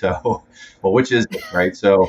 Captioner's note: laughs